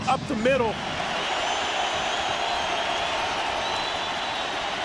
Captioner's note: crowd cheering